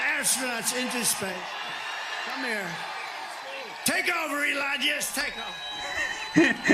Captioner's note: applause; laughter; applause